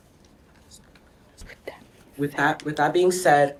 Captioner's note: students whisper